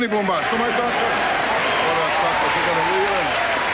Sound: audience applauding

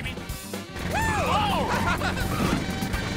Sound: laughing

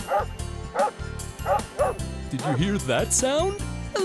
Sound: sound of a barking dog

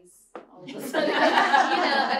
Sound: laughter

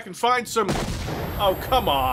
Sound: explosion

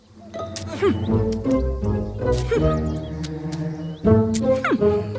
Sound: sounds of removing burrs

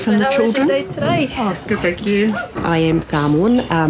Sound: teacher and parent talking

